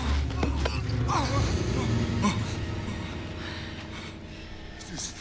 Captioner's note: moaning